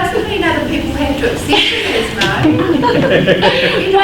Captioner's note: laughter